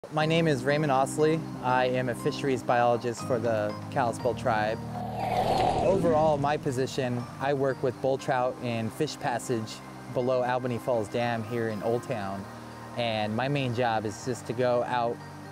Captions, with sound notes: - My name is Raymond Ostlie. I am a fisheries biologist for the Kalispel Tribe. (air whooshing) Overall, my position, I work with bull trout and fish passage below Albeni Falls Dam here in Oldtown. And my main job is just to go out